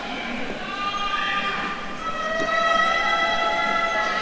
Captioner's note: attendees cheering